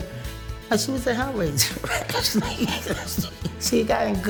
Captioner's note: laughs